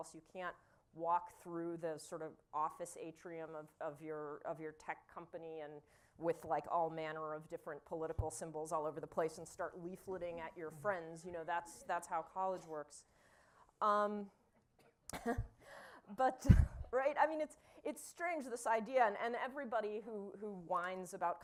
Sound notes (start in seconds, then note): 13.2 laughter